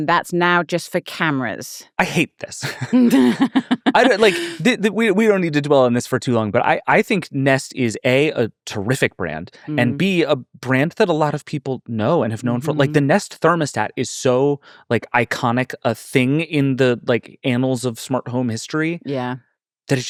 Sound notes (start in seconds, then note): 2.6 laughing